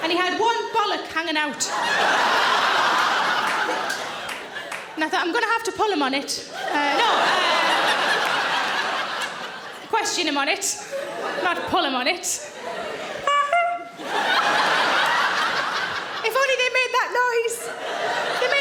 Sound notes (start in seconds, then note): 1.6 audience laughing; 6.5 audience laughing; 13.4 Sarah honking; 14.2 audience laughing